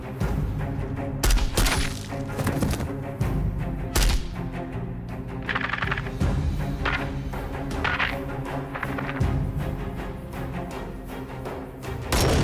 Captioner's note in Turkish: Silah Sesi